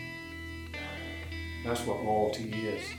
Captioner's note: sighing